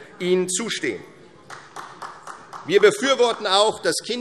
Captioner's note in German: Beifall